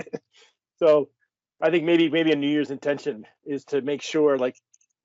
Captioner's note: laughing